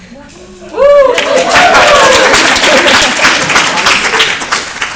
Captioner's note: applause